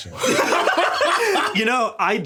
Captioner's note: everyone laughing